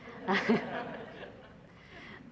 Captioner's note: laughter